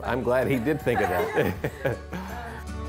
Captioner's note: laughs; upbeat music